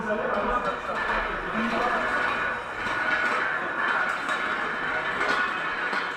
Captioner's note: sounds of dragging heavy metal